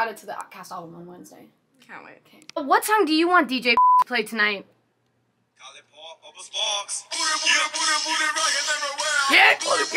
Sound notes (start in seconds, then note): 3.8 beep; 6.2 upbeat rap music; 9.7 singing along to music